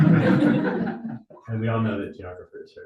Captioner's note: audience laughing